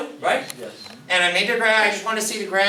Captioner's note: voiceover